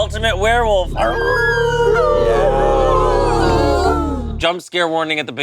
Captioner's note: group howling